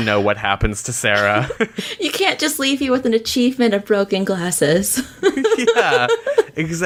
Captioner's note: laughs